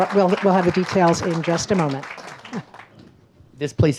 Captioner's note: laughs